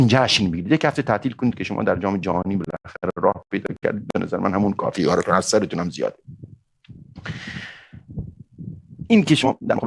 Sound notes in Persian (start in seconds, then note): 6.9 صدای آه